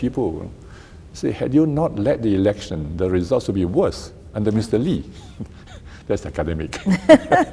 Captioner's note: both laugh